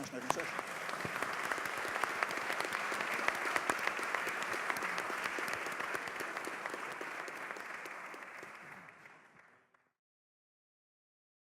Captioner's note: applause